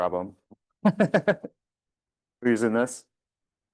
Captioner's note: chuckles